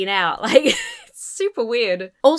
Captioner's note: laughs